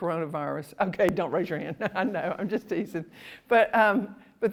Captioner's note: laughs